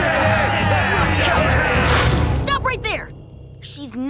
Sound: angry shouting

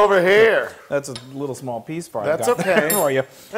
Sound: laugh

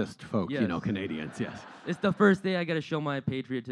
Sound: laughter

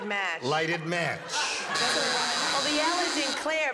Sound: buzzer

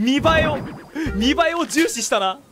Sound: inhales

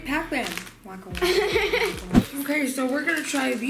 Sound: laughing

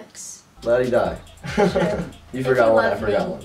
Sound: laughs

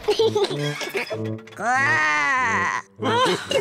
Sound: laughs; growls; all laugh

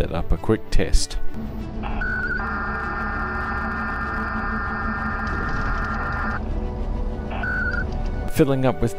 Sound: ARDOP modem noises

